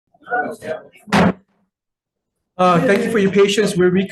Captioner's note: gavel bangs